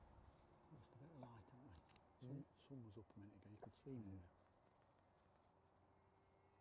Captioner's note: whispering